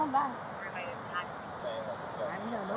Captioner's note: radio chatter